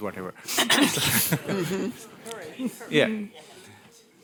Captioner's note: laughter